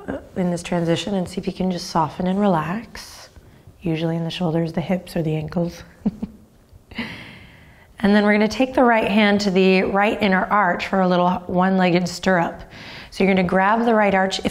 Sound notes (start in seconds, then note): 5.9 chuckles